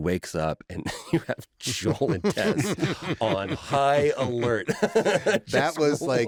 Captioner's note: laughter